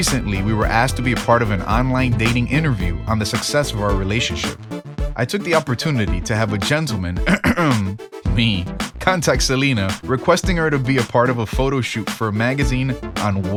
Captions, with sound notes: Recently we were asked to be a part of an online dating interview on the success of our relationship I took the opportunity to have a gentleman (cough) Me. contact Selena requesting her to be a part of a photoshoot for a magazine on